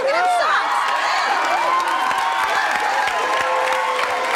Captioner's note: audience cheering